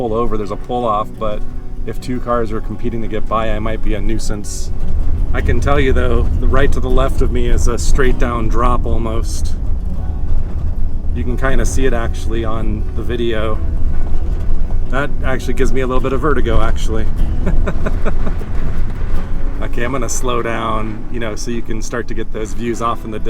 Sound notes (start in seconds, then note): 17.2 laughs